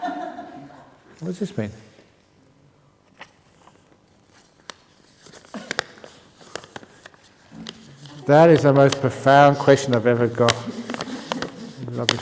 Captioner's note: laughs